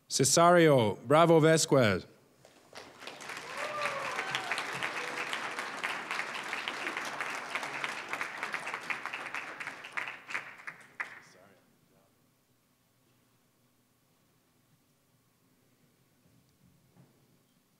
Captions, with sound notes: Cesario Bravo Vazquez. (applause, cheering) (applause)